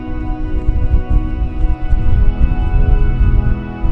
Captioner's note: sound of wind